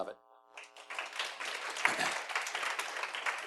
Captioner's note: appluase